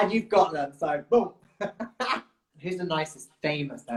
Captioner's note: laughs